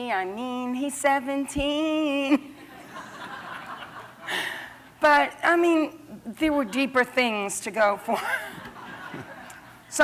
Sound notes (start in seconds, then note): 2.4 laughter